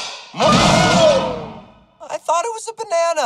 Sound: yelps

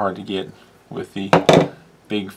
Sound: light bang

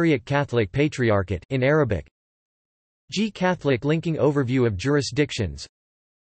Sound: in Arabic

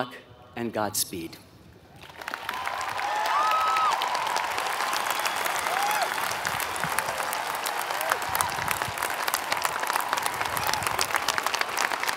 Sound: applause

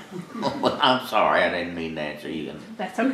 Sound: laughs

